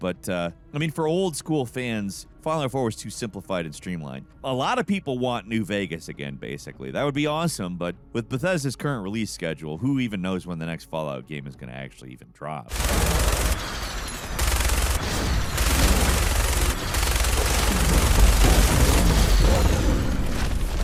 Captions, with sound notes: But I mean for old school fans, Fallout 4 is too simplified and streamlined. A lot of people want New Vegas again, basically. That would be awesome. But with Bethesda's current release schedule, who even knows when the next Fallout game is gonna actually even drop? (gun firing)